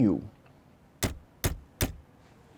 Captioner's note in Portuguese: batidas na porta